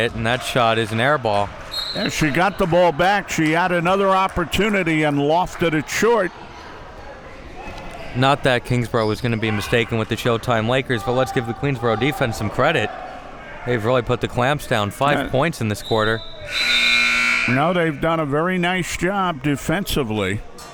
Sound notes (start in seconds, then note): 16.2 buzzer blaring